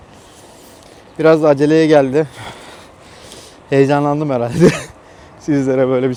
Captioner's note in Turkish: kahkaha